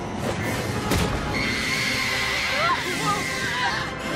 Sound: screaming

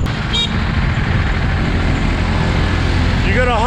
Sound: horn beeps

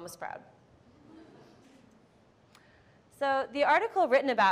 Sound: audience laughs

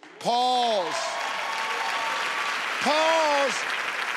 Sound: audience applauding

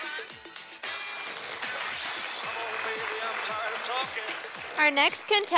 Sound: sound of applause from audience

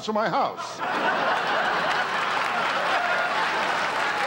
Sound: audience laughter

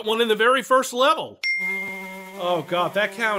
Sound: ding

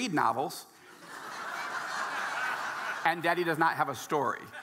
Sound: audience laughing

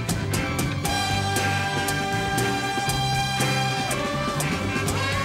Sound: horns blaring

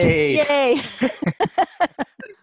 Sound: laughter

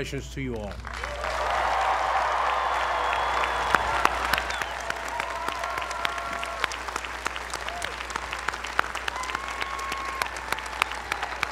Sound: applause

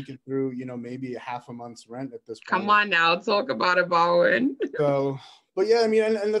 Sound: laughs

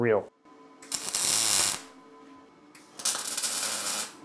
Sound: tool crackling

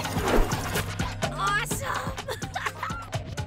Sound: laughs

